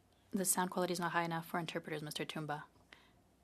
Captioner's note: speaking French